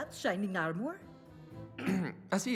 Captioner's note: ahem